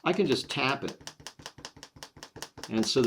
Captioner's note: clicking sound of the kneaded eraser sticking down and pulling up off the paper